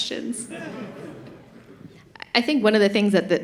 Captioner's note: laughter